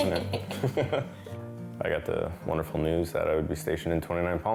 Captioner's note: laughs